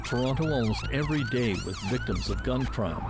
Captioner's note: sirens